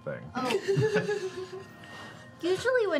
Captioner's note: laughing